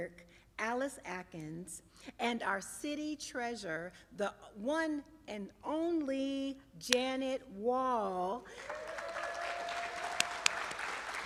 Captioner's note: applause and cheering